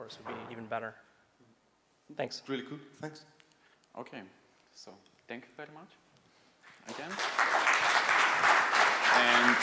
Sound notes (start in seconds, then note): 6.7 audience applauding